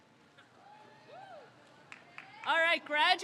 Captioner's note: crowd cheers